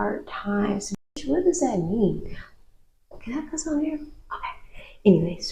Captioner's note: gasp